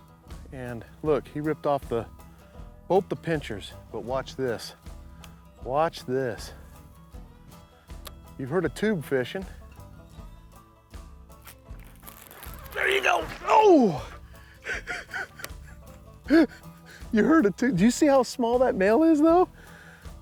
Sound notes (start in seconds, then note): 14.6 laughing